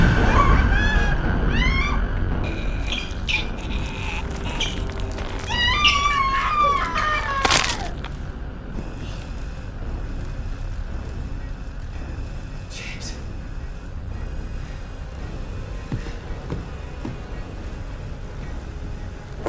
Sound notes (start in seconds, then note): 0.0 dramatic music; 0.0 screaming; 0.0 screams; 2.5 loud munching; 3.1 loud grunting; 5.6 crunching; 5.6 screaming; 14.4 thrilling music